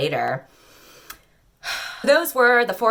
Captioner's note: inhales incredulously, tongue clicks, and sighs